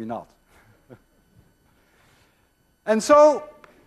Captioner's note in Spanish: risas